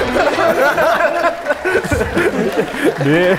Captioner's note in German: Applaus